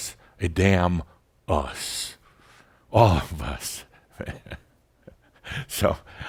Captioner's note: Adamus chuckles